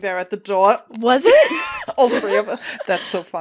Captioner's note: laughter